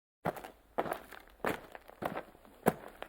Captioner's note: footsteps